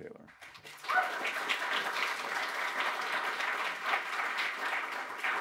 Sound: audience applauding

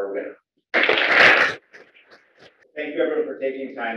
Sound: applause

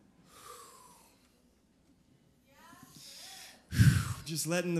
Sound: deep breath

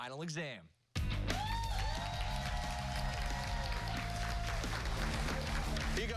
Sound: cheers and applause

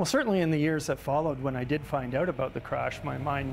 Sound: voiceover

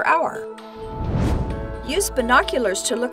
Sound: whoosh

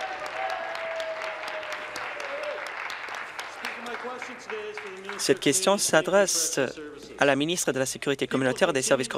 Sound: applause

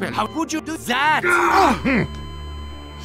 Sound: Sniper screams

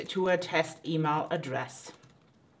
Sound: typing

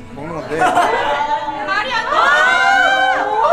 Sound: cheering as soon as he has a bite

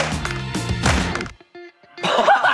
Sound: hits the ground

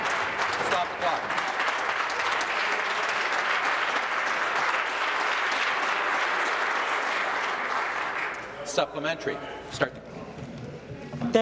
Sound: applause

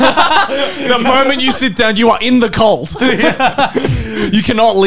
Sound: men laughing; laughs

